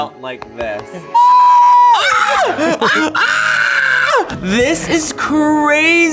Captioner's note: both wailing and screaming